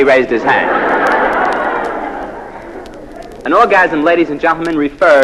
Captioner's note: laugh